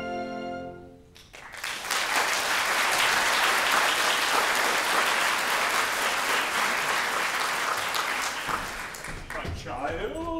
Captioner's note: applause